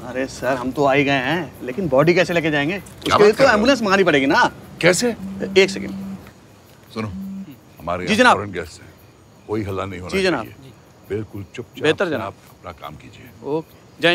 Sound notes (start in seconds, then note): 5.1 phone vibrating